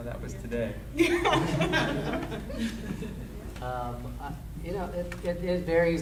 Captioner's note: audience laughing